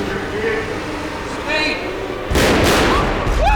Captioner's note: loud bangs; cheering; scream